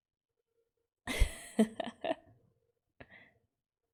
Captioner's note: laughs